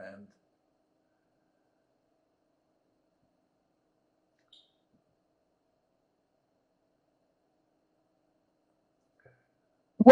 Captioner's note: pauses 8 seconds